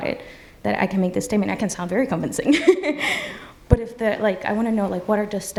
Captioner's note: laughs